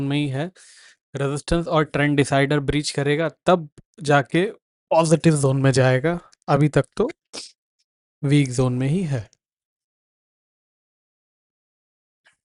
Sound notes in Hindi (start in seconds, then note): 7.3 नाक से की जाने वाली आवाज़